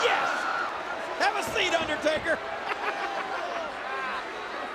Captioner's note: laughs